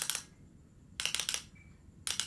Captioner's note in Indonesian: klik klik klik klik; klik klik klik; klik klik klik klik